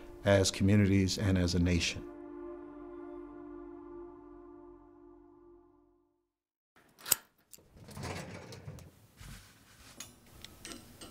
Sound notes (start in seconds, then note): 6.8 lock snaping